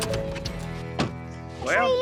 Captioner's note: car door shuts